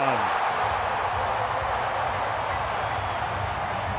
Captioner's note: crowd cheering